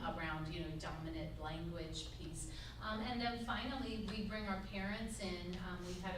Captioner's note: none